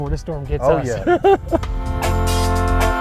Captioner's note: laughing; fun upbeat music